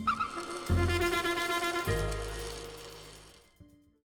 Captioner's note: metal sparking